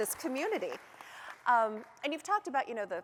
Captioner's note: applause